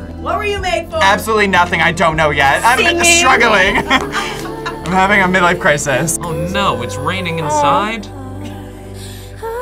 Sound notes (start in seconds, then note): 3.5 group laughs